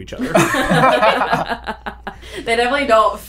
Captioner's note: laughter